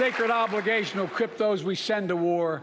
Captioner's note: applause